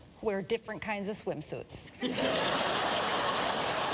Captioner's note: laughter